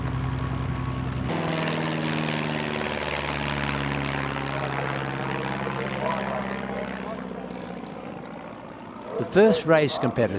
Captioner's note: aircraft sounds